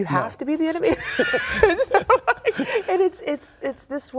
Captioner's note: both laughing